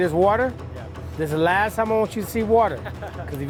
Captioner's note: laughs